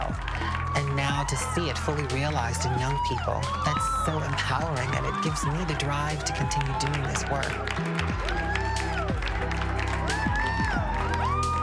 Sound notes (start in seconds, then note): 7.6 cheers and applause